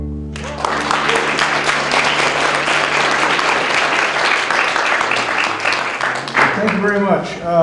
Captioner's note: applause